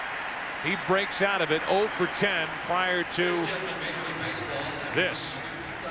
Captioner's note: cheers and applause